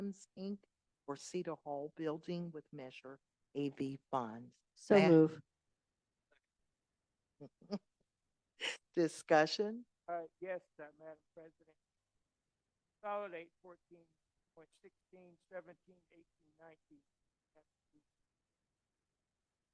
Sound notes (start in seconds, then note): 4.8 laughter